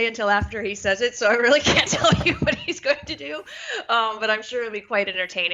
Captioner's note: laugh